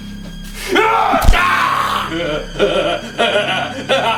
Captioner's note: Larry yells; Henrietta screaming; Larry laughing